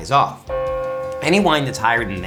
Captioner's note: bell rings